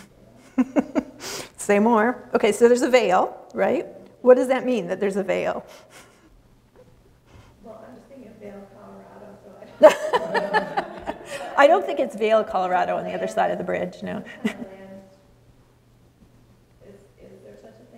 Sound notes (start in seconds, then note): 0.0 laughs; 9.8 laughs